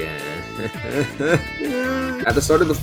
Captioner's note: audible despair